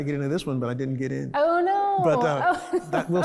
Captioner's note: laughs